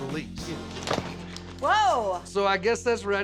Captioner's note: thud